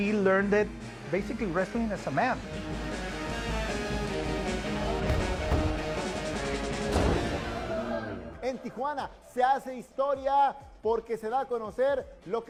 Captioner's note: speaking Spanish